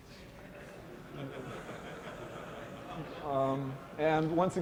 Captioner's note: laughter